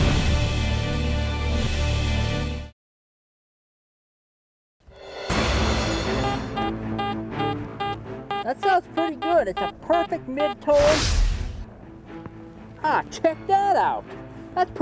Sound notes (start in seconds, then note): 0.0 dramatic music; 6.2 beeping